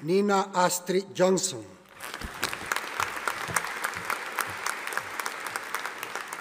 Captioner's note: audience applauding